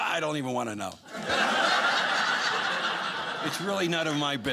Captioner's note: audience laughing